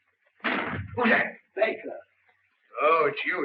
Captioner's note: door slams